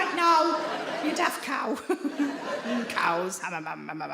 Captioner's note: audience laughing